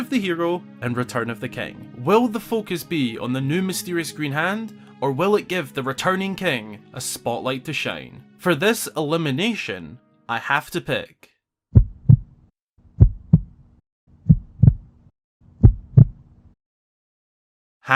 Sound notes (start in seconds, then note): 14.2 heart beat